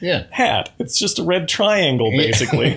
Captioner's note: laughter